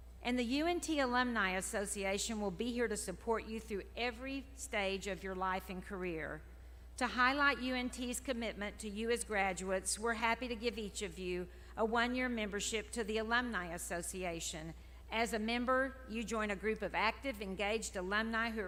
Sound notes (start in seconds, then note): none